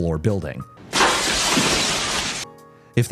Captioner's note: water splashing